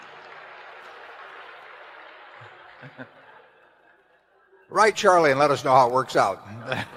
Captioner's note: laughter